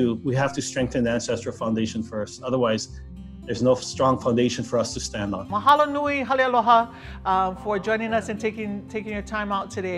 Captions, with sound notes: otherwise, there's no strong foundation for us to stand on. (in Hawaiian language) (in Hawaiian language) Taking your time out today all away from Palehua, Hawaii